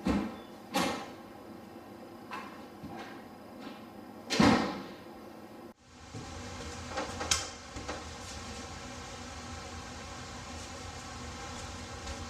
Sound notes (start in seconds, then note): 0.2 door opening; 4.3 door closing